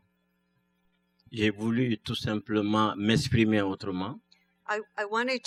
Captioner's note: speaking french